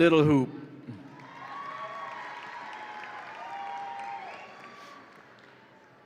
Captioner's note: audience applauds and cheers